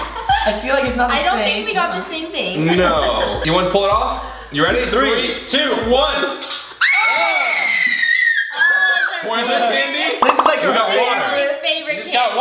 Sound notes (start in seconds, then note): 6.8 screams